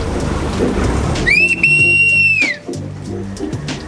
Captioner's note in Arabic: ضوضاء صفير